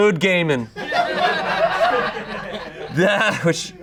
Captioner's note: audience laughing